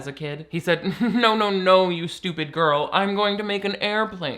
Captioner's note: laughs